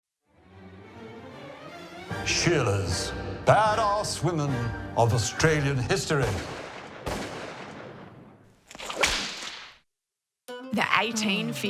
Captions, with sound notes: Badass women of Australian history. (gun shots) (whip crack) The 1850s.